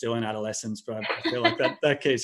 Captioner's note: laughing